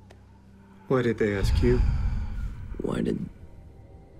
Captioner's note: exhales